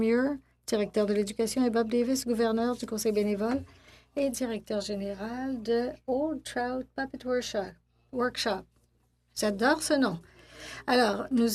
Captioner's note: speaking French